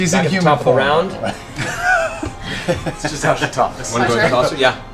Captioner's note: laughs